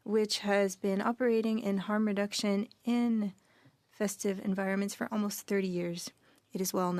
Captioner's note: speaking French